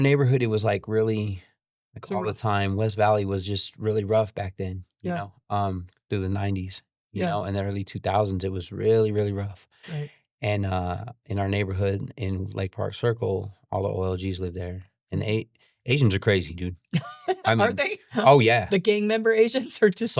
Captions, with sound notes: neighborhood, it was like really, like all the time. West Valley was just really rough back then, you know? It was through the 90s, you know? And then early 2000s, it was really, really rough. And in our neighborhood, in Lake Park Circle, all the OOGs lived there. And Asians are crazy, dude. (laughs) Aren't they? Oh yeah. The gang member Asians are just-